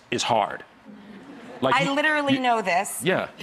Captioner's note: audience laughs